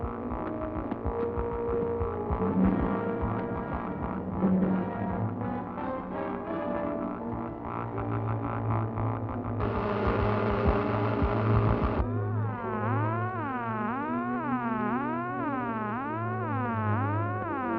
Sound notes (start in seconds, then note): 9.9 device buzzing